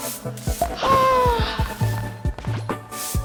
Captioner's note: stressed sigh of relief